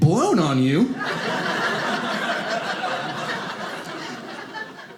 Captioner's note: audience laughing